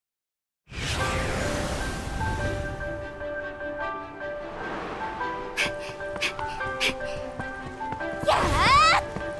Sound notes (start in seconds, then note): 5.5 huff